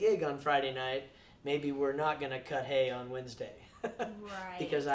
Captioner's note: laughs